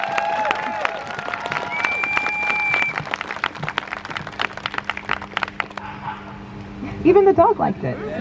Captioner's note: crowd cheers